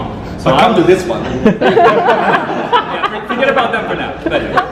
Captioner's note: audience laughs